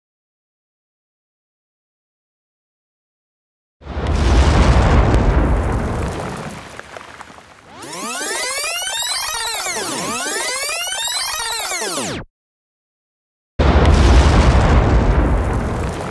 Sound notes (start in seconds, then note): 3.8 explosion; 7.7 tape rewind; 13.6 explosion